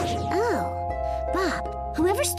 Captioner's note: none